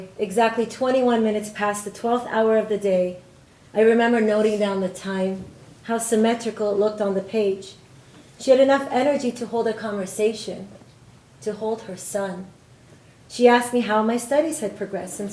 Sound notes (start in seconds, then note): none